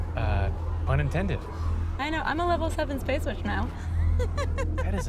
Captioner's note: laughs